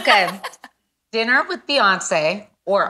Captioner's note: laughs